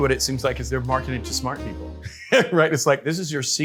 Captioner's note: laughs